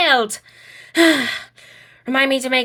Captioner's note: sighs heavily